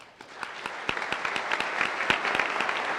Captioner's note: applause